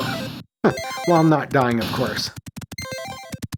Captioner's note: chuckles